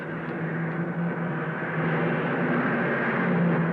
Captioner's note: car revving